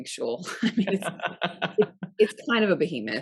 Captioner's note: both laughing